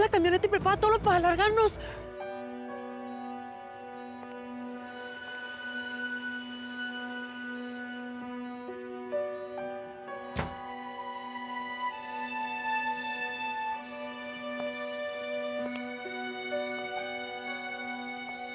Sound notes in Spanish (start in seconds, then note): 8.3 sonido al cerrar la puerta